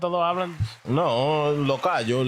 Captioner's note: speaking In Foreign Language